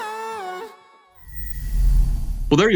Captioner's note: air whooshes